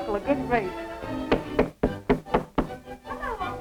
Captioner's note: soft knocking